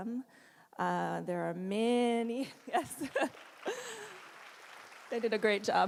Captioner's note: applause